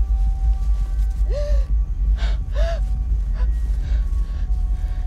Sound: Sheila sobbing

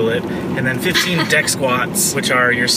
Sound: laughs

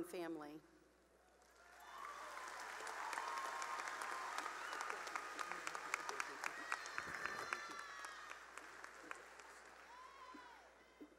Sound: cheering and applause

